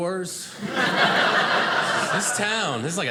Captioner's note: audience laughing